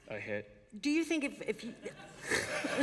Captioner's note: laughter